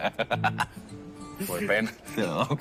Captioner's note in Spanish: Marcelo se ríe